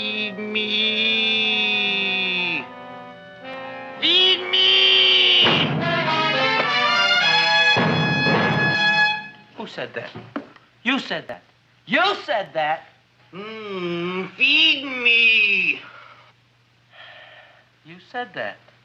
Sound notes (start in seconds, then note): 5.4 Seymour thumping; 5.8 dramatic music